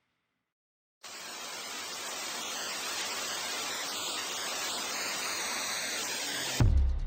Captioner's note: tv static